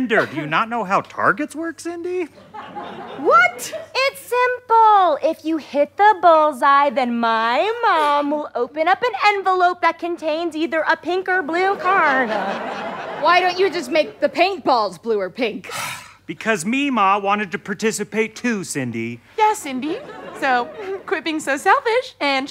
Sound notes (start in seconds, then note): 2.3 audience laughter; 11.7 audience laughter; 15.7 sighs